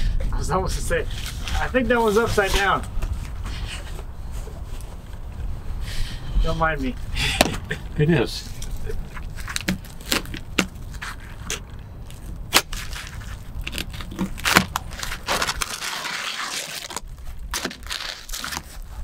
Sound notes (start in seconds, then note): 14.7 shingles crunching